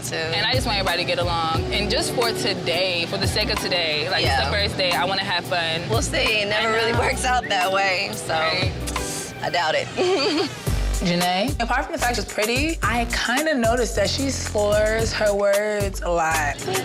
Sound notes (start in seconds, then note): 9.9 laughs; 16.6 giggling